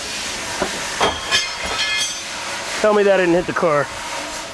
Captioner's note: metal clangs